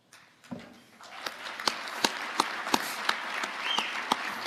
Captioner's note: audience applauding